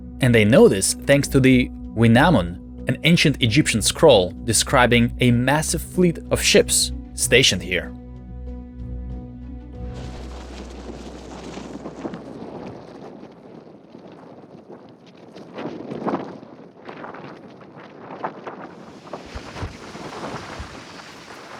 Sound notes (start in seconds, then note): 9.8 wind whooshing; 18.6 waves crashing